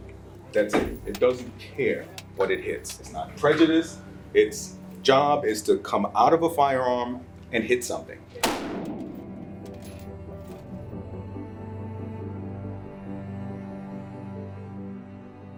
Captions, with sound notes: That's it. It doesn't care what it hits. It's not prejudiced. It's job is to come out of a firearm and hit something. (gun shots) (soft music)